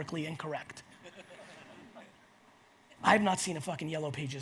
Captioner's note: audience laughs